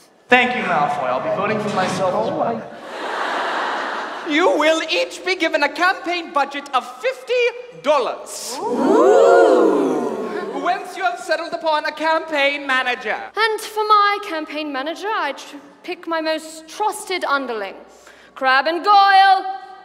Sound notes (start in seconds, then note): 2.7 audience laughs